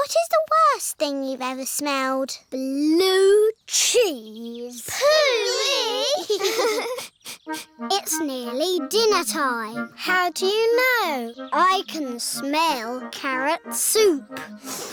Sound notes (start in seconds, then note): 4.8 giggling; 6.7 sniffs